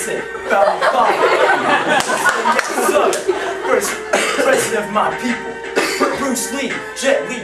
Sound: even More Laughter

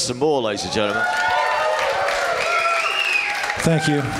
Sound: applause

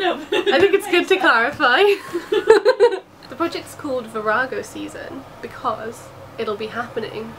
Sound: laughs

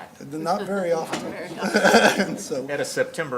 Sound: laughs; laughter

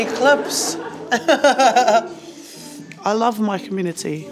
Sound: laughs

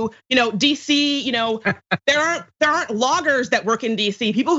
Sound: laugh

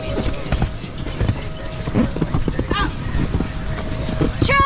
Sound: inflatable slide squeaking

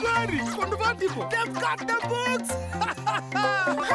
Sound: laughing

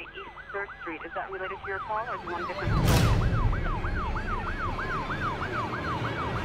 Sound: police sirens

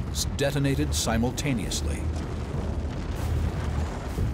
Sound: explosions

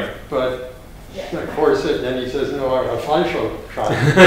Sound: foreign language

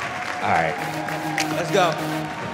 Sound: cheers and applaud; upbeat music

